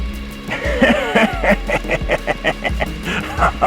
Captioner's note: a long, drawn out fart sound